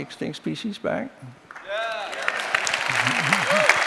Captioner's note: cheers and applause